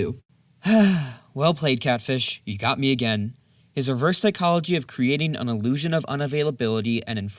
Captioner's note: sigh